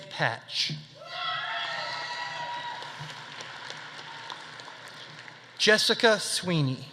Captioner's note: audience cheering; audience applauding